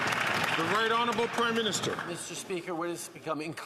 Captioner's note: some Applause